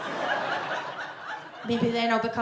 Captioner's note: audience laughs